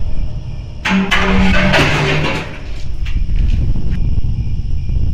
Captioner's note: clanging, crickets; crickets